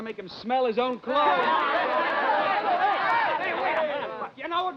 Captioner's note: men cheering